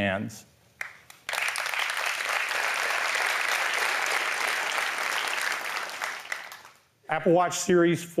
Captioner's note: applause